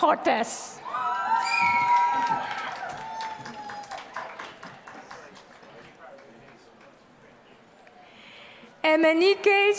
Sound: applause

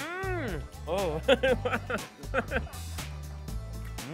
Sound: laughs

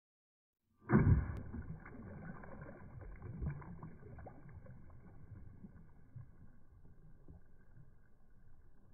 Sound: water splashing

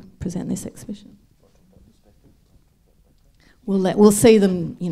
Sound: speaks faintly

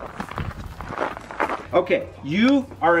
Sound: feet clanging

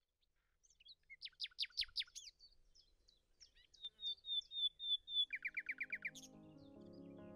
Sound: birds chirping

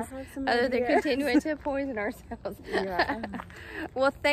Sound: laughs

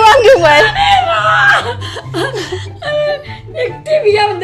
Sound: chuckles

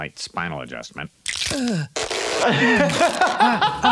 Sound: bones cracking; Mr. Burns grunting; laughing

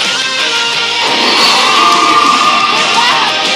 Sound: Screech

